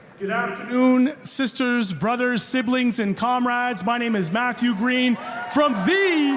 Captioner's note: applause